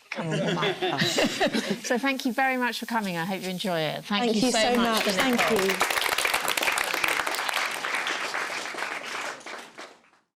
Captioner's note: applause